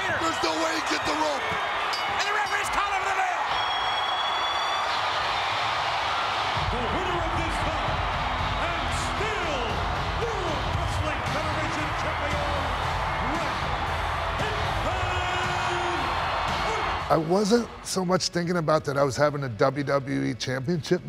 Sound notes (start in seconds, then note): 6.0 applause